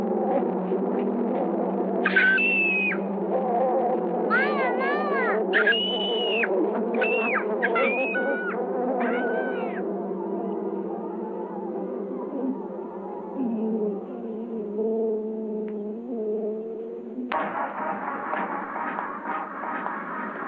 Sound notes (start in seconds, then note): 2.0 screaming; 4.3 screaming; 17.4 upbeat band music